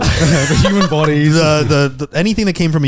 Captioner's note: laughing